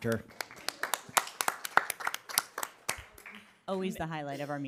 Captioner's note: people applauding